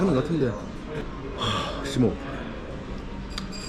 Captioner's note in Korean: 심호흡